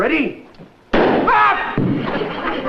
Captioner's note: bang